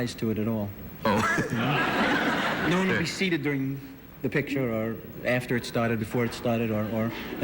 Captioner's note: laughter